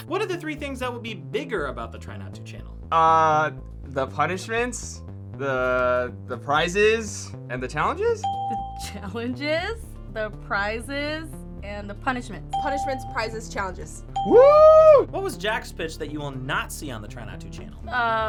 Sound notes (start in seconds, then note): 8.2 bell rings; 12.5 bell rings